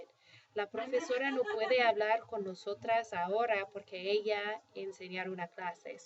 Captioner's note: speaking spanish